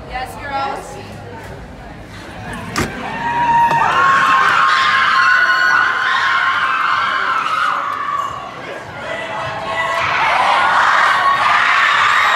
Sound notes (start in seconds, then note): 4.5 cheers